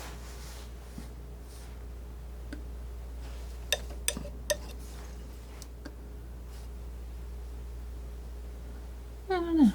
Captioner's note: scratching